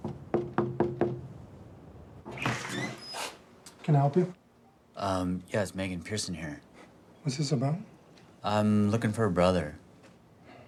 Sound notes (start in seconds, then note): 0.0 Dayne knocking; 2.2 door creaking; 10.6 sighs